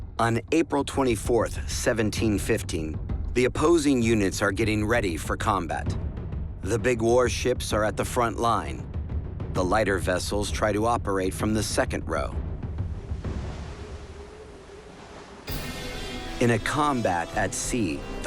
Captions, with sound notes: On April 24th, 1715, the opposing units are getting ready for combat. The big warships are at the front line, the lighter vessels try to operate from the second row. [waves crashing faintly] In a combat at sea,